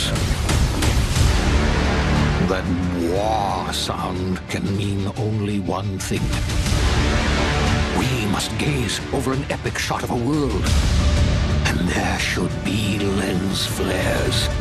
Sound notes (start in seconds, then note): 0.0 dramatic sound